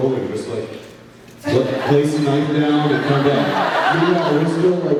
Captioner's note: laughs